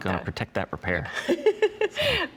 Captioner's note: chuckles